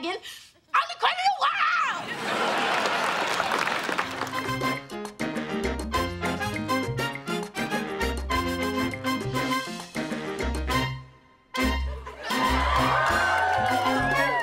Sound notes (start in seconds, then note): 2.7 clapping